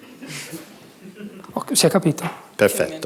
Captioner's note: speaking italian